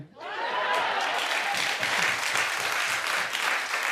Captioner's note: audience clapping